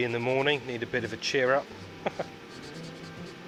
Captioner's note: laughs